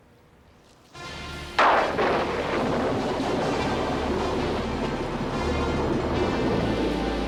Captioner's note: dramatic music; thunder crashing